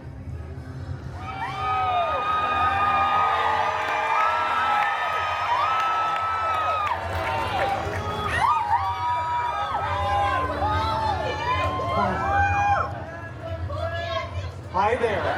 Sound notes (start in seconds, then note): 1.1 guests cheering and applauding